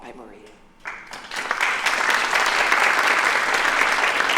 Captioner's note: applause